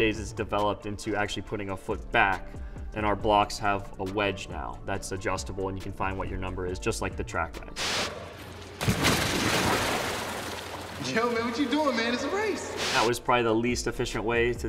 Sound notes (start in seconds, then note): 7.8 splash